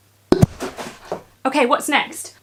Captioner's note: popping penguin pops